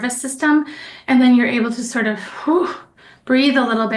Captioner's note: exhales